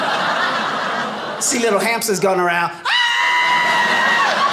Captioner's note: screams